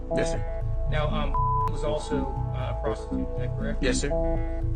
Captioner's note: beep